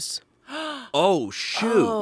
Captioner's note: gasps